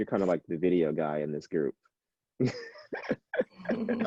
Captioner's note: laughing